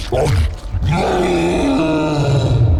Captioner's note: roars